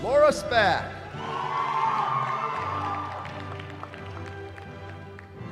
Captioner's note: cheering